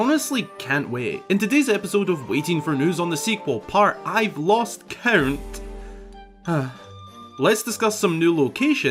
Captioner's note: sighs